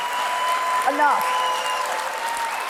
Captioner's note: cheers and applause